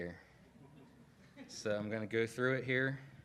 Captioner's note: laughing